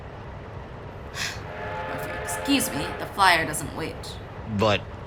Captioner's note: sighs